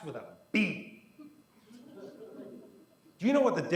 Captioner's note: quiet laughter